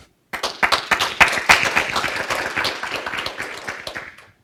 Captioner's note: audience applauds